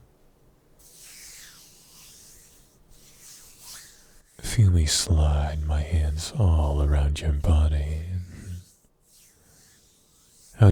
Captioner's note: hand noises